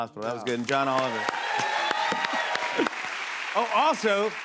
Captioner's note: cheers and applause